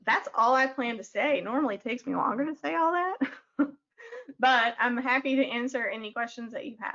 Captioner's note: chuckles